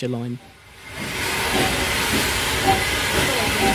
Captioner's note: sound of a steam train leaving